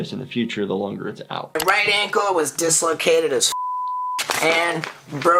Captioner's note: beep